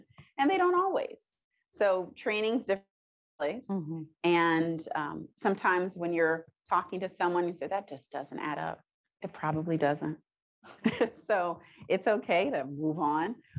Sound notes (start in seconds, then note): 10.9 chuckles